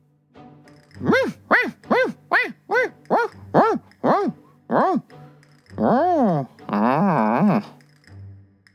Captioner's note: barking